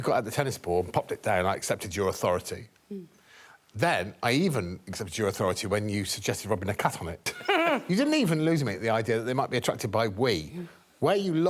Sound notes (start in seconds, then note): 7.3 giggling